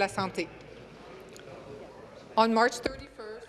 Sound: speaking in French

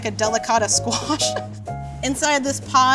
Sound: laughing

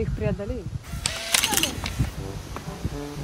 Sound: camera click

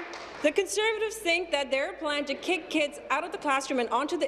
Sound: applause

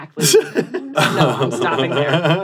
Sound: laughs

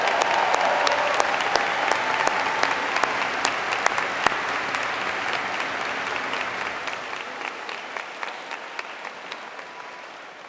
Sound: applause

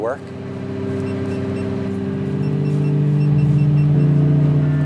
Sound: buttons beeping

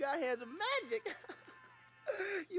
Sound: snickering

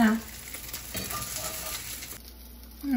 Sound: sizzling

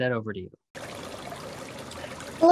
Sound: water bubbling

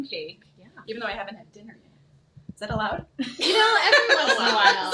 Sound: chuckles

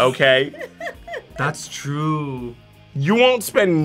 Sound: React laughs

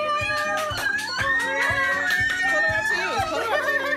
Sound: cheering

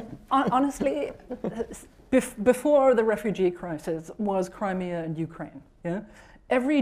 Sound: laughter

